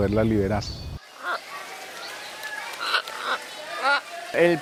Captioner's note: guacamayas parlando